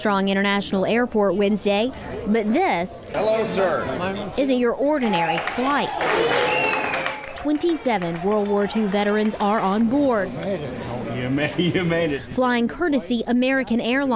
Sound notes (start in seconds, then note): 5.0 cheering